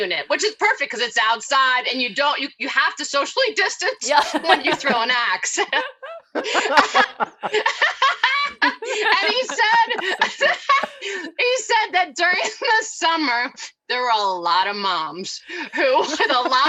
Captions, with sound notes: which is perfect cause it's outside and you don't have to socially distance before you throw an ax. (both laughing) And he said, he said that during the summer there were a lot of moms who.